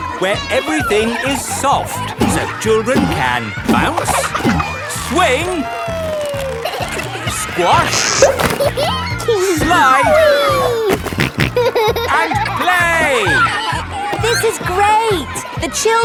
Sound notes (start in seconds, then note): 8.4 giggles; 10.8 snorting